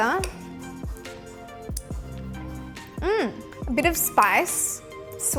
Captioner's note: licks loudly